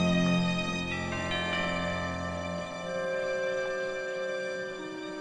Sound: doorbell rings

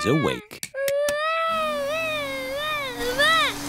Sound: vacuum cleaner whirring

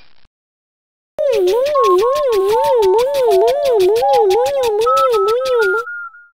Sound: beeps and shaking noises

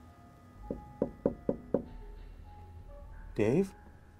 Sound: knocking

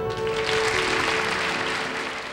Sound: audience applauds

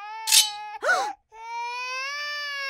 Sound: women gasp

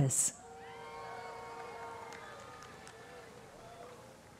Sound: scattered cheering

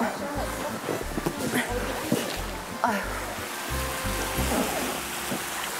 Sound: grunting, she manages to get on the tube

